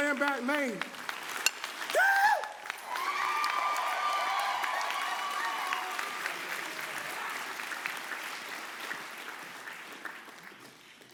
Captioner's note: applause